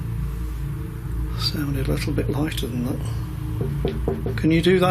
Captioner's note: knocks; knocks